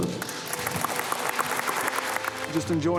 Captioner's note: audience applauding